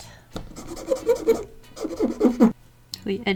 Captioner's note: eraser farts